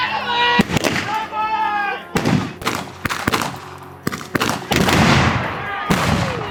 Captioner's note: gun banging; people screaming